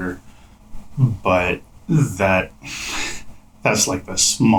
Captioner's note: laughs